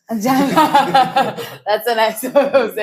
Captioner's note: laughs